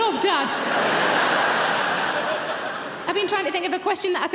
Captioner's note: audience laughing